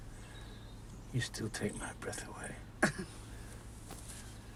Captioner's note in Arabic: ضحكة خافتة